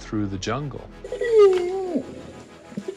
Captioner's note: howls